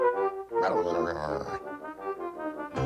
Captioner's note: muttering